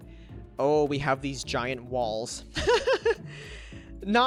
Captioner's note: laughs